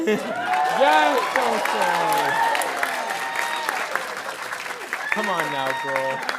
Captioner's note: audience cheering and applauding